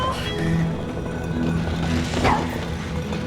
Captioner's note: hammer blows